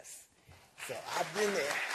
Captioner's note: applause